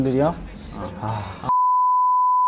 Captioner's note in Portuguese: suspiro profundo